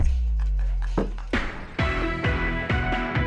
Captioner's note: laughs